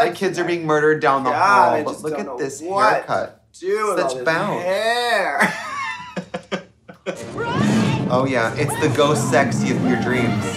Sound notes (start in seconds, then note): 4.3 Katya laughing; 7.2 screaming